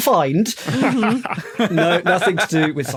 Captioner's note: laugh